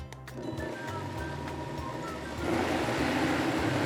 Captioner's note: blender whirs